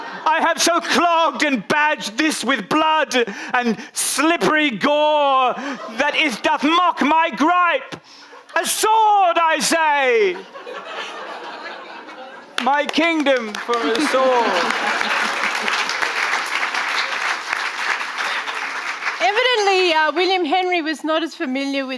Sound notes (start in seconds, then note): 0.0 audience laughing; 10.0 audience laughing; 15.4 audience applauding